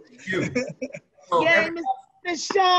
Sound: laughing

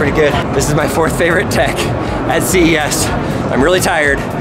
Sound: chuckles

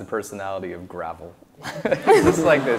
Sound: laughs

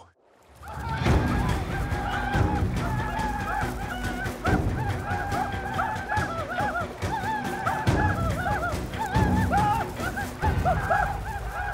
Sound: arikara war cries

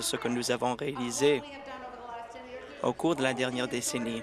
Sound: applause

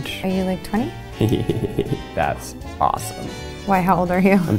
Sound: laughs

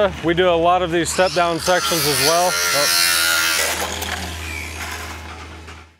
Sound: grinder whines

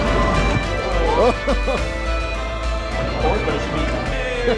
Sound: chuckling

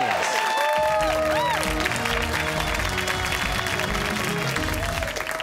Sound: cheers and applause

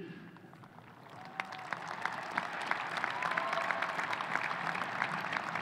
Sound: audience applauding

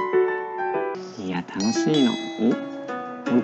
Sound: confused noises; doorbell rings

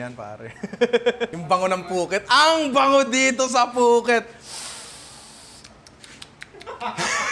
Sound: laughs; sniffs; laughter

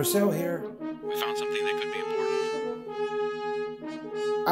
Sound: over intercom

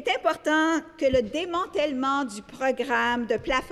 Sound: speaking French

